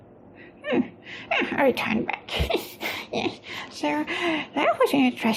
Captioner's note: chuckles